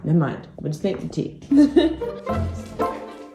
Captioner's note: quirky music; giggles